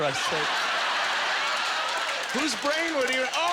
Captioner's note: audience laughter